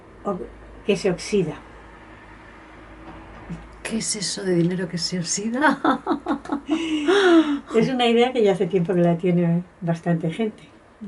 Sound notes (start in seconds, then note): 5.6 laughs